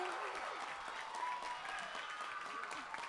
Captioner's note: applause